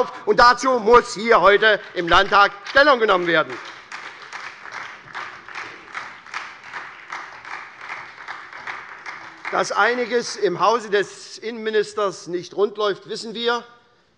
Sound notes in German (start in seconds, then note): 4.4 Beifall bei der SPD - Zuruf von der CDU